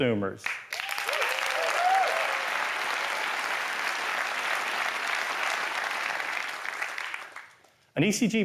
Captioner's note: applause